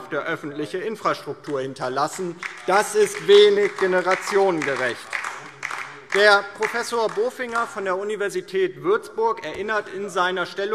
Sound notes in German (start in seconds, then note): 4.9 Beifall DIE LINKE